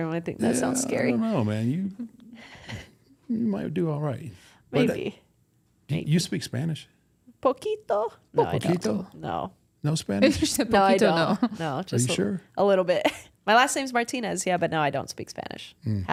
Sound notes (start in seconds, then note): 7.7 both speaking Spanish; 10.6 speaking Spanish